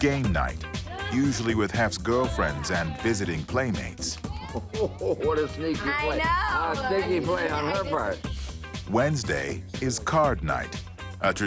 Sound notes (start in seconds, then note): 4.2 laughing